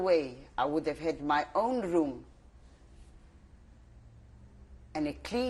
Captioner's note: pauses for 3 seconds